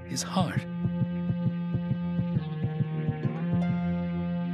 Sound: heart beating

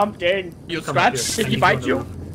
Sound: bzzt

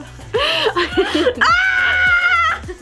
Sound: laughs

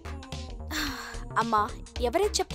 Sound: sighs

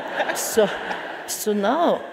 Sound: audience laughs

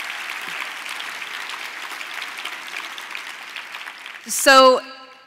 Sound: applause

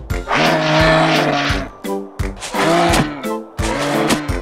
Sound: moose brays

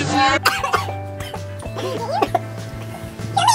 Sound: coughing

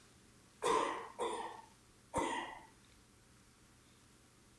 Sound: audience member coughing

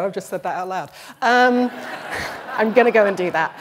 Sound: laughter

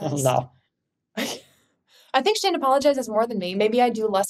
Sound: chuckles

